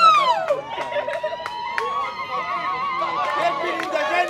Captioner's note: laughing; shouts of joy; applause